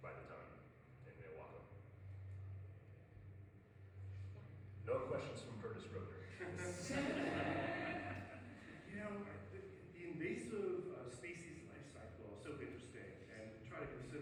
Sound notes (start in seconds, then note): 6.7 crowd laughs